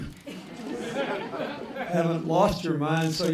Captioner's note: laughter